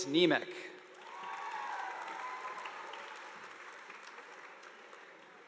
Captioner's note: audience applauding